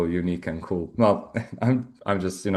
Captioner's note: chuckles